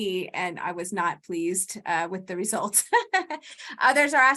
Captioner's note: laughs